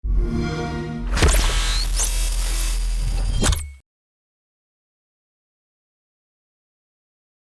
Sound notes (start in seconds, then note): 0.1 xbox sound; 1.1 static whizzing